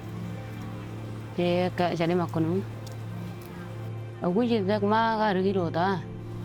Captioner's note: speaking in foreign language